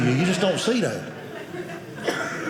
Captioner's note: audience laughing